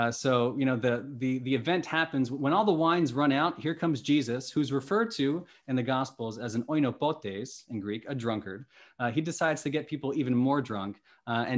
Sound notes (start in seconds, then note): 6.8 speaking greek